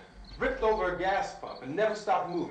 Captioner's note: none